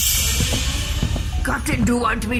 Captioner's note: transition noise